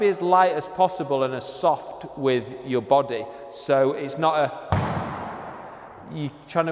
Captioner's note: stamps loudly